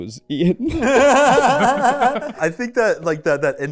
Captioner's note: laughing